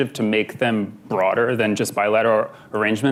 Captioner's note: none